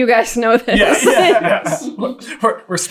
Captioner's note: laughing